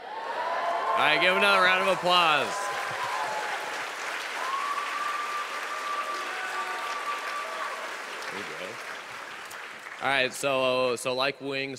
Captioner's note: audience reacts